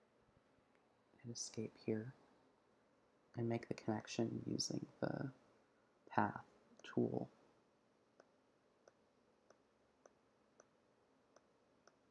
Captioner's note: click